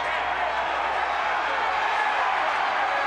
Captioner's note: crowd chatter